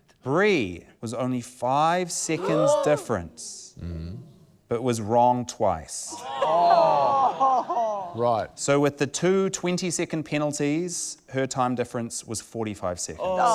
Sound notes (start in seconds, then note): 3.8 all gasp; 6.7 all groan; 13.3 all groan